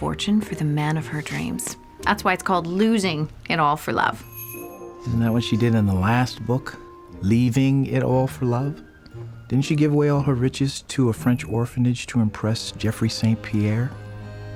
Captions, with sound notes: FOR THE MAN OF HER DREAMS. THAT'S WHY IT'S CALLED "LOSINGIT ALL FOR LOVE." [DOORBELL JINGLES] ISN'T THAT WHAT SHE DID IN THE LAST BOOK "LEAVINGIT ALL FOR LOVE"? DIDN'T SHE GIVE AWAY ALL HER RICHES TO A FRENCH ORPHANAGE TO IMPRESS JEFFREY ST. PIERRE...